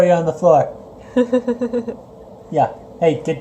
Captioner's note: laughs